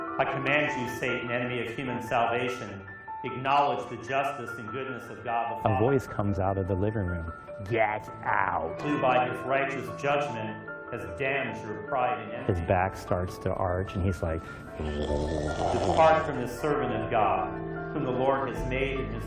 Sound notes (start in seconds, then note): 14.7 growls